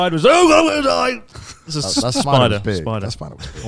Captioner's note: chuckles